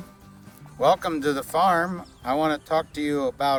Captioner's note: bird chirping